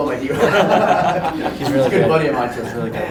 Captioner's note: all laugh